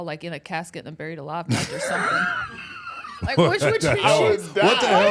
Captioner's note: Mark laughs